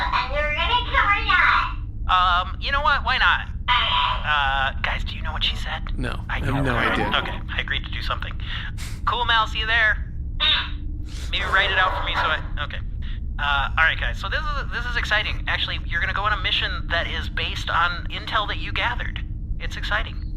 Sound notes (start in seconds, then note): 4.8 hushed; 6.0 the crew make noises to the negative; 12.7 door closes